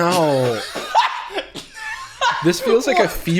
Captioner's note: laughing